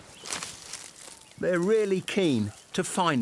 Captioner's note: underbrush crunches